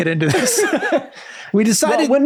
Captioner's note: all laughing